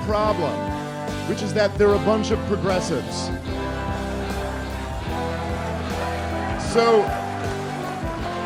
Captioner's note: applause; laughter